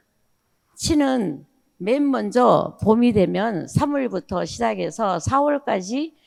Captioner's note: speaking in foreign language